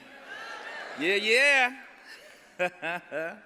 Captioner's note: cheers